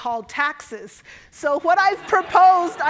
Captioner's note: audience laughing